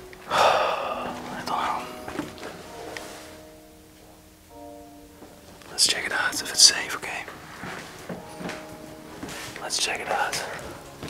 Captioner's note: frustrating sigh